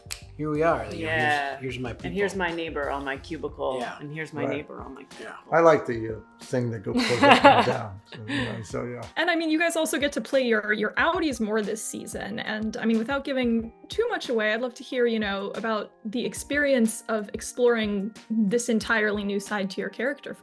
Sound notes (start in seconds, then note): 6.9 Britt laughing